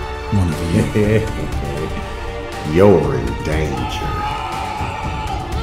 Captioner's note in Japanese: 叫び声